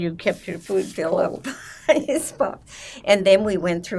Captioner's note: laughing